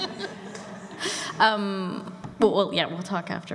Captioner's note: laughter